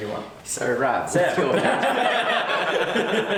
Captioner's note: laughter